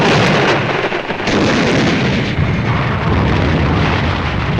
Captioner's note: explosions booming; guns blasting